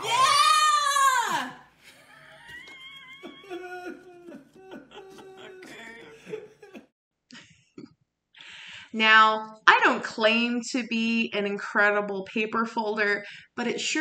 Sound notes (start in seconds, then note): 6.0 laughing